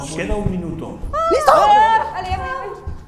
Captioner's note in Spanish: gritan